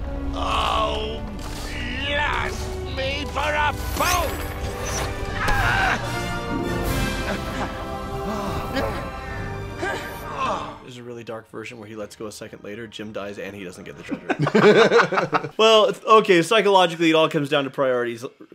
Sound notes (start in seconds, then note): 8.2 Jim and Silver grunt